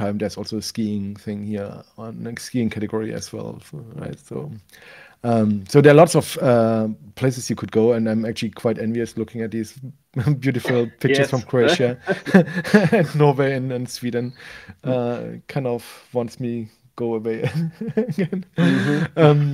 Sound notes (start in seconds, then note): 11.3 both laughing; 17.4 laughs